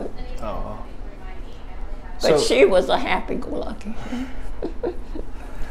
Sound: chuckles

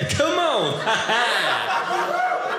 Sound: audience laughing

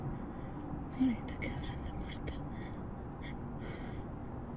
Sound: Janet speaks Spanish

